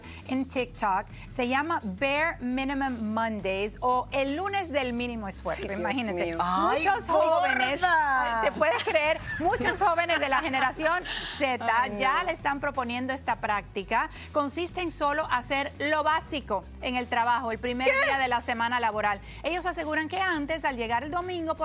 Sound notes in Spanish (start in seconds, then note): 7.6 habla en inglés